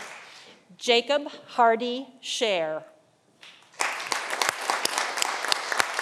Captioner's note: audience applauding